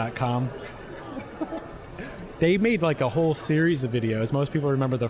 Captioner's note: laughing